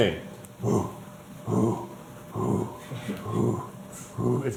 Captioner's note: grunting